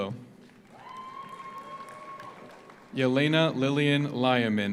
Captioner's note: audience applauds; audience cheers